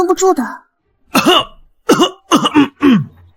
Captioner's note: cough